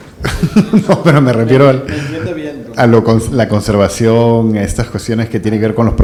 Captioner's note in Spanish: risas